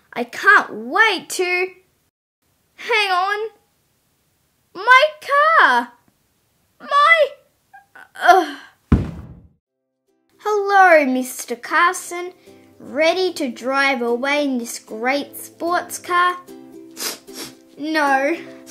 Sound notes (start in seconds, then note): 8.8 thud!; 16.9 sniff, sniff